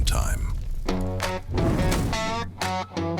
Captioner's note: whooshing